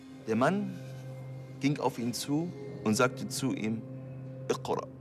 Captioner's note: speaking in a foreign language